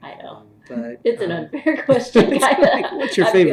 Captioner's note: laughs